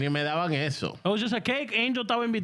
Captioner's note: speaking In Foreign Language